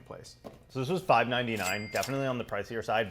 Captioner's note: register ka-ching